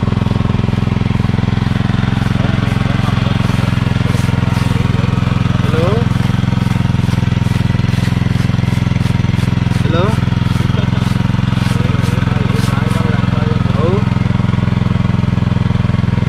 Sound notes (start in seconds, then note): 0.6 machine sounds